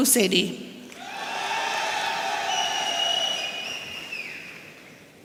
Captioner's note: audience cheering